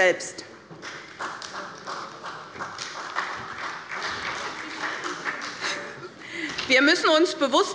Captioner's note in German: Beifall bei Abgeordneten der SPD